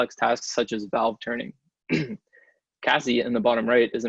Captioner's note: clears throat